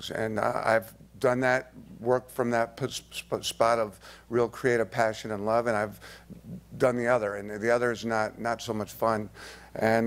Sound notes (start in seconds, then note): none